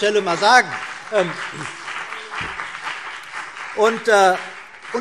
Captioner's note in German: Beifall CDU und BÜNDNIS 90/DIE GRÜNEN